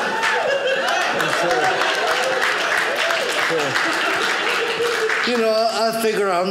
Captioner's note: audience laughing; audience cheering